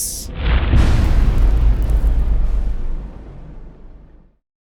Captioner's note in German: impact